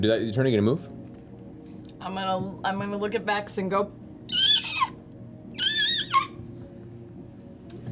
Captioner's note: squeaking noise